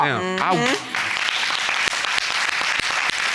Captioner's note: applauding